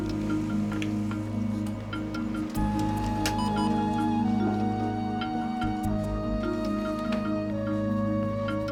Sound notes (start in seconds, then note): 3.3 beeps